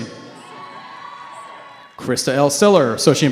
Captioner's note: cheering